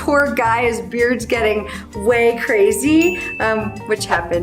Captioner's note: bell chimes